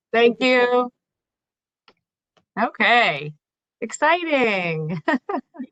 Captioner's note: laughter